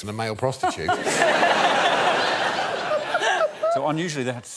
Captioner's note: laughter